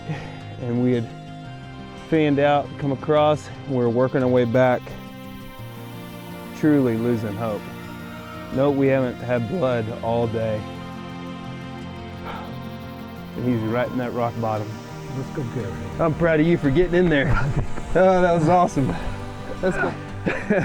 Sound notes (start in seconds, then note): 12.0 exhales; 19.5 laughing